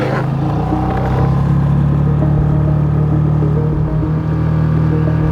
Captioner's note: engine whirring